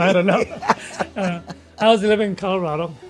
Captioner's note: laughs